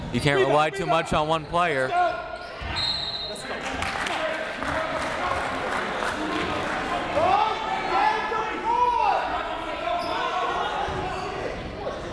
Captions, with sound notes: You can't rely too much on one player. (whistle) - [Crowd] Make some noise!